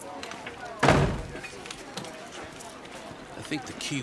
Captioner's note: door thuds